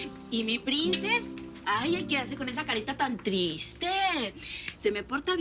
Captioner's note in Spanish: none